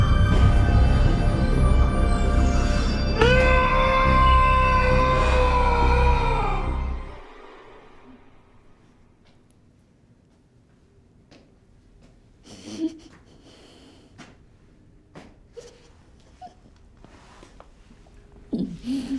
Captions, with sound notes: - Noooooooooooooooo! (muffled breathing) (whimpering)